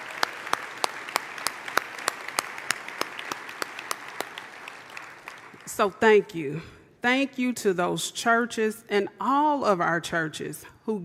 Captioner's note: applause